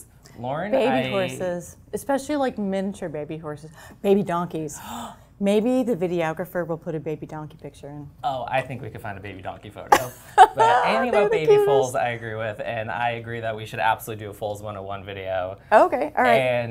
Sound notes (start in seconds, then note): 4.8 gasp; 10.0 laugh